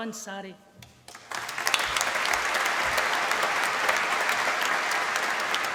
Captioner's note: applause